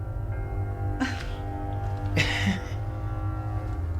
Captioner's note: coy laughter